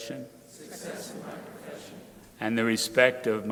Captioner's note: crowd repeating